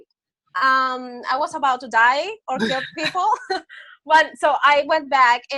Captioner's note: laughs